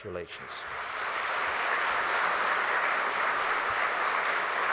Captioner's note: applause